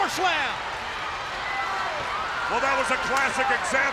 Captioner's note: spectators cheering